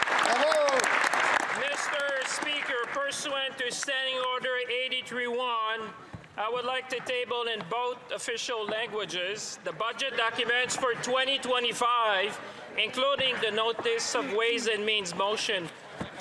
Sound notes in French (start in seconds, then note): 0.0 applaudissements; 5.4 voix de l'interprète